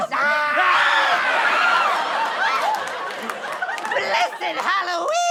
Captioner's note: screams